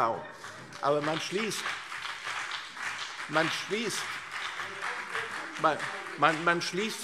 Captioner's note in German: Beifall CDU und BÜNDNIS 90/DIE GRÜNEN